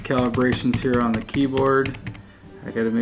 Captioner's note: keys clicking